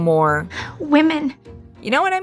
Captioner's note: Jo from 'Little Women' says in a loving tearful way